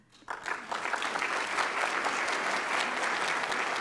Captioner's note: applause